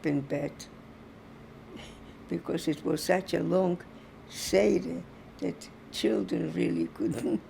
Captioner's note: laughing